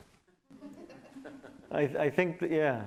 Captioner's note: audience laughs